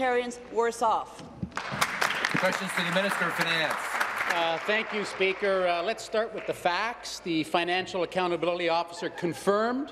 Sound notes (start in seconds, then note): 5.9 some Applause